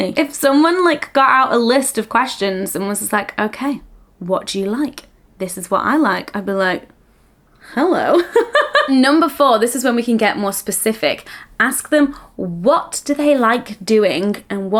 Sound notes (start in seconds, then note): 8.2 laughing